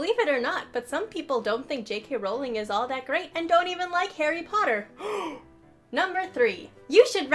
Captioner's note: gasp